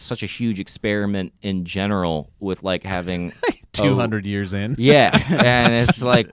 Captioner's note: laughs